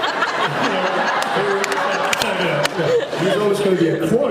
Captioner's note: laughs